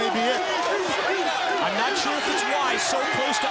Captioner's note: crowd chatter